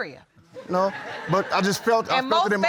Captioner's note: audience laughs